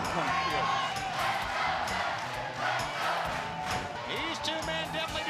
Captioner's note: crowd cheering